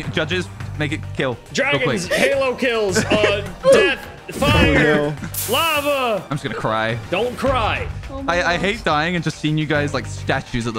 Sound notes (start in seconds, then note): 1.8 people laughing